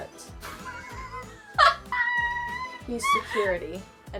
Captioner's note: Arizona laughs